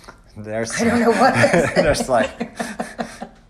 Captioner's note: laughing